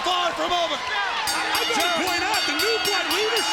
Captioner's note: bell rings